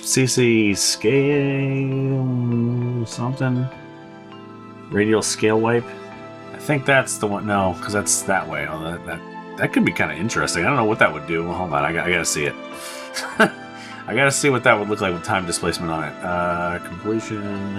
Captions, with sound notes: CC scale...something. Radial scale wipe. I think that's the one-- no, because that's that way. Although, that could be kind of interesting. I don't know what that would do. Hold on. I got to see it. [Laughs] I got to see what that would look like with Time Displacement on it. Completion.